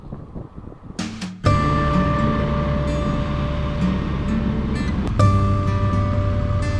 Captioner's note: engine rumbling; light music